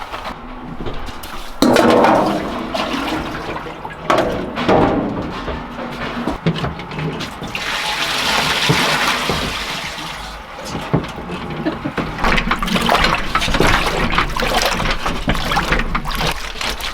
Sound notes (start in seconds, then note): 2.0 bucket clanging; 6.9 water pouring; 13.1 water sloshing